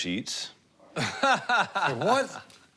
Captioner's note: laughs sarcastically